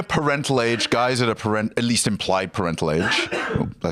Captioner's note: coughs